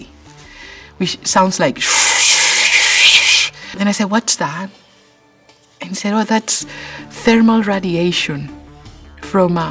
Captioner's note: swooshing sound